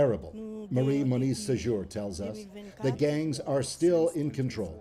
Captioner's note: speaking French